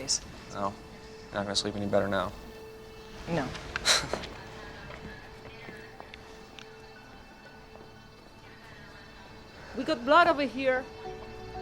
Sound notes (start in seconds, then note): 3.8 chuckles